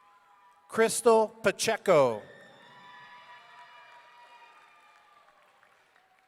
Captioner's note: audience cheering